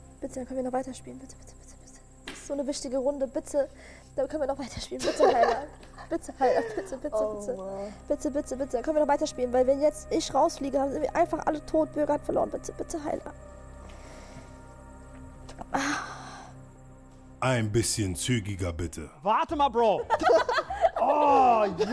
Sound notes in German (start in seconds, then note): 15.6 Seufzen; 20.1 Lachen